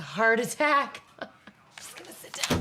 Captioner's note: laughing